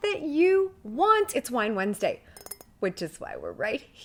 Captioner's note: taps glass